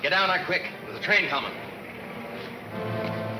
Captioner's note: train rumbling